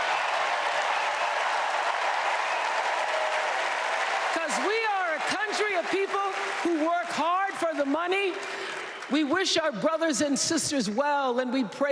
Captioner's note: cheers and applause